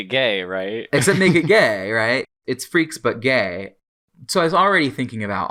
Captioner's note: laughs